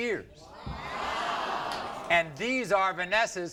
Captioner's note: crowd